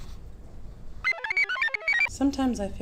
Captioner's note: computer chirps